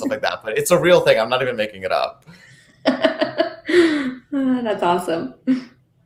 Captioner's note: laughing